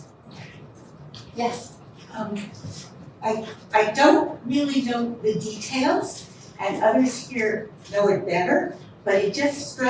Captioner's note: audience member speaking